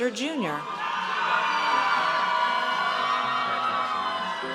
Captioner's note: audience cheers